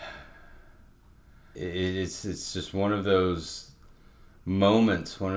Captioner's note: exhaling deeply